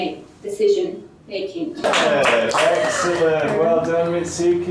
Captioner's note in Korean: 박수